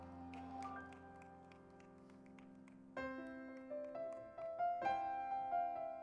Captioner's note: crowd applauding; spirited music